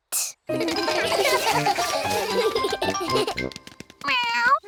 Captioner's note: all giggle